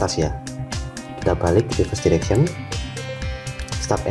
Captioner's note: click